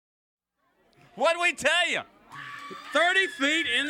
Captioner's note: crowd cheering